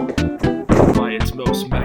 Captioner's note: bang